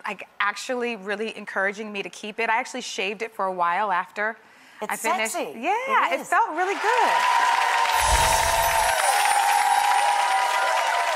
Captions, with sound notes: actually really encouraging me to keep it. I actually shaved it for a while after I finished. It's sexy. Yeah, it felt really good. (applause)